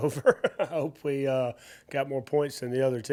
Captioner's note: laughs